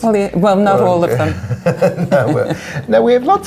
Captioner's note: laughing